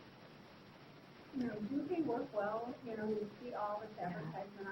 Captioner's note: speaking faintly